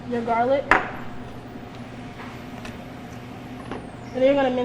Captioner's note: object thuds